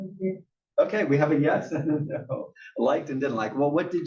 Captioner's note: laugh